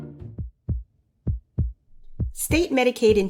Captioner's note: heartbeats